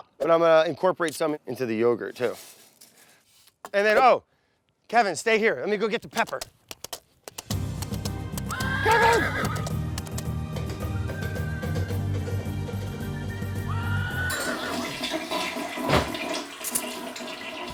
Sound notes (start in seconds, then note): 7.2 galloping; 14.2 toilet flushes